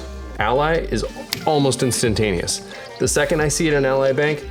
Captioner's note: snaps fingers